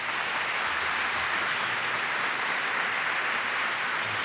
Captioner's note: audience claps